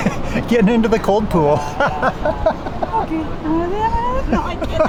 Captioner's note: laughs